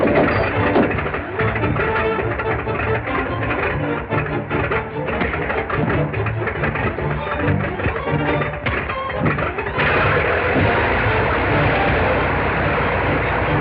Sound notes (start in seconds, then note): 0.0 body thuds; 8.2 punch thuds; 9.6 plane whirring